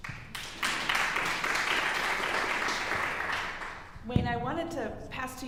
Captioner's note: audience applauding